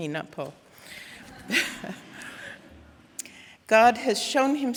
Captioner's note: audience laughing